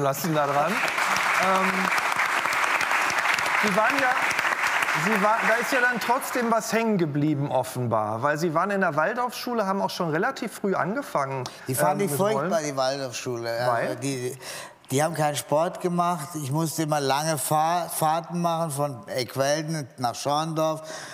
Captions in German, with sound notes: Danke, dass Sie uns teilhaben lassen daran. (Applaus) Da ist ja dann trotzdem was hängengeblieben offenbar, weil Sie waren in einer Waldorfschule, haben auch schon relativ früh angefangen ... Die fand ich furchtbar, die Waldorfschule. Weil? - Die haben keinen Sport gemacht. Ich musste immer lange Fahrten machen von Eckwälden nach Schwandorf.